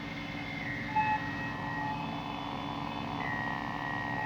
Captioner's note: monitor apitando